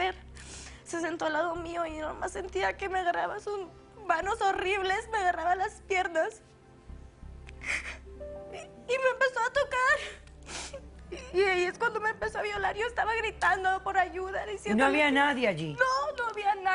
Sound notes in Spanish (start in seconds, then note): 7.6 Solloza